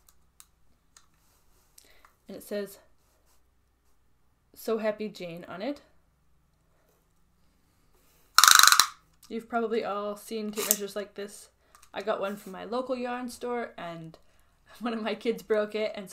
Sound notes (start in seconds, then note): 8.4 loud clicking